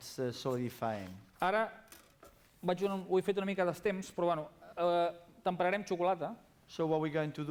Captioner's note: non-english speech